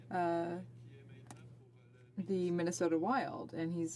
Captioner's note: speaking French